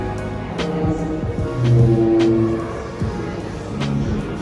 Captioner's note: dinosaur noises